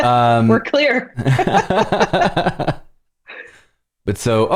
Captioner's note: laughter